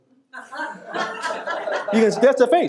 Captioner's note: audience laughing